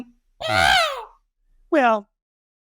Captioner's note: scream